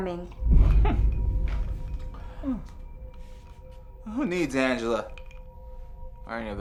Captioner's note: chuckles